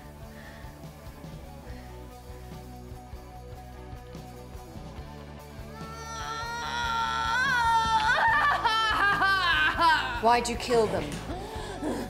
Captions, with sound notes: (Groaning) Why did you kill them?